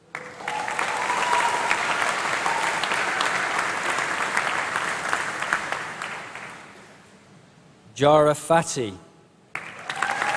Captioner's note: applause